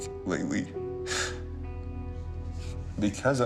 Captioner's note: sobs